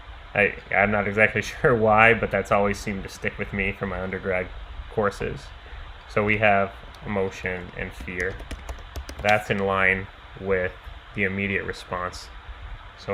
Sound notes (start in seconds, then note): 6.8 keyboard clicking